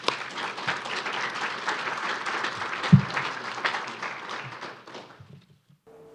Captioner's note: applause